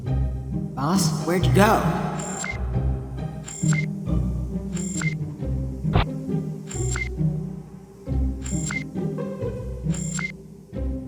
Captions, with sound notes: Boss? Where'd you go?? (CONSOLE BEEPING)